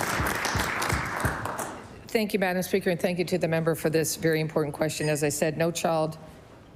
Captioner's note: applause